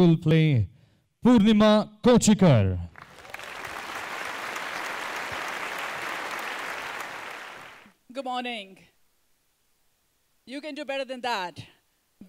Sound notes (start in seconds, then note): 2.9 applause